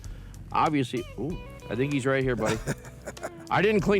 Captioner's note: laughing